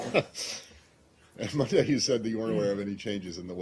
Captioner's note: laughter